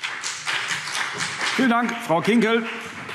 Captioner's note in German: Beifall BÜNDNIS 90/DIE GRÜNEN und vereinzelt CDU